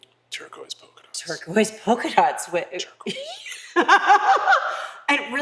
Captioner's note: laugh